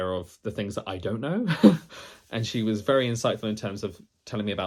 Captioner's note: laughs